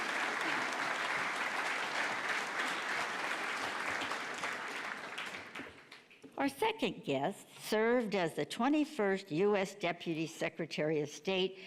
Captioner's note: applause